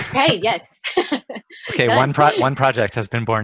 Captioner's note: laughs